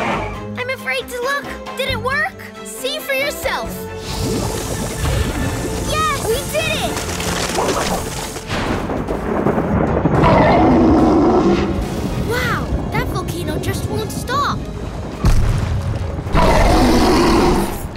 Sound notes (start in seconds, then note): 10.2 roaring; 16.3 roaring